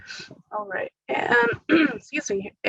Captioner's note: clears throat